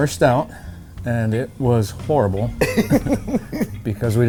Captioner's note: both laugh